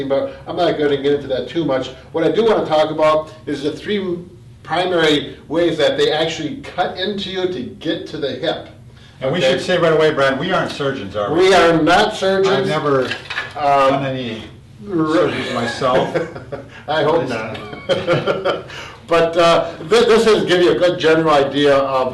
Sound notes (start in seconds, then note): 15.2 laughs